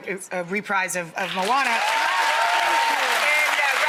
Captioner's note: audience applauds